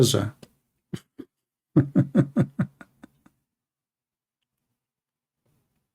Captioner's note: Ketawa